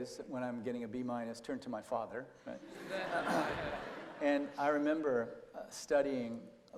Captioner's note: laughter